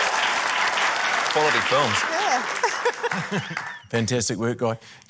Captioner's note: laughs